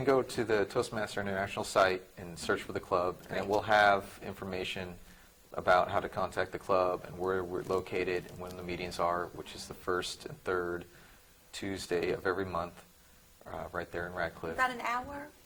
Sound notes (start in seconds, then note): none